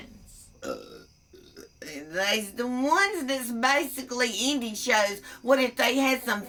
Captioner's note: burps